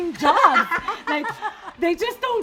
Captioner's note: laughing